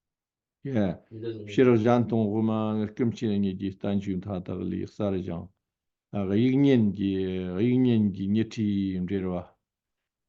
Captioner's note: tibetan